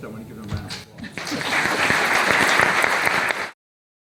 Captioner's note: applause